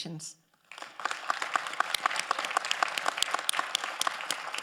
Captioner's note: all applauding